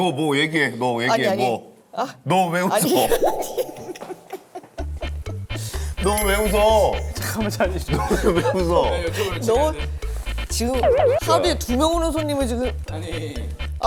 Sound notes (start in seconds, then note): 7.2 bursts of laughter